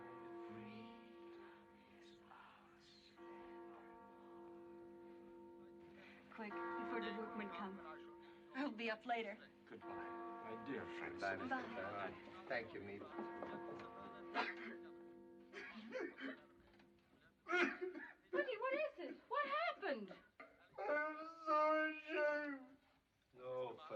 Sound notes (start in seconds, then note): 3.1 tolling Continues; 14.8 Mr. Van Daan Sobbing; 20.7 sobbing